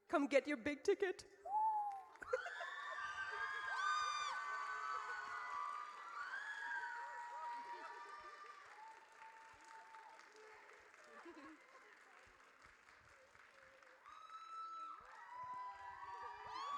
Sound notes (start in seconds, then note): 2.2 audience cheers